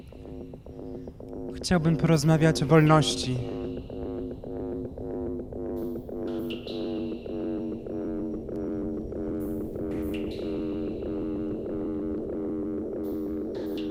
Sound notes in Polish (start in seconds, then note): 4.8 Spadające, oscylujące buczenie; 9.9 Powtarzające się elektroniczne odgłosy kapania